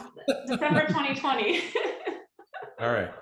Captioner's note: laughter